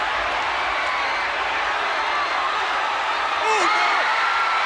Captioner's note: audience cheers